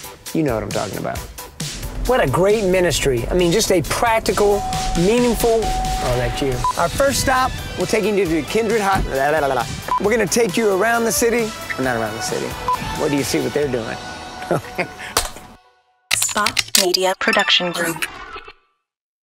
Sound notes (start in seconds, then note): 3.9 bell dings; 14.7 laughs; 15.4 hand slapping